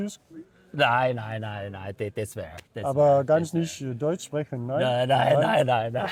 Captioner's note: is speaking German